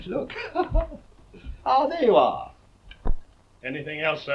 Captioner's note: laughs